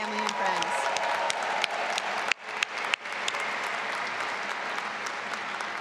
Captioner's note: audience applauding and cheering